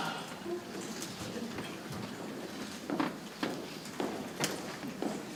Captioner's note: people chattering softly